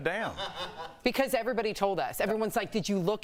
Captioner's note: laughter